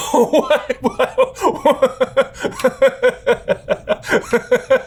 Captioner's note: laughing